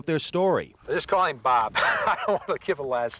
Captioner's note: laughs